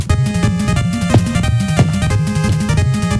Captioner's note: footsteps